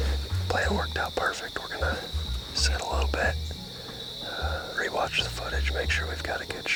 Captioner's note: whispering